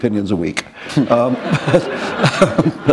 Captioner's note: laughter